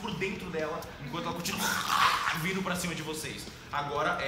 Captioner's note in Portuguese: grunhidos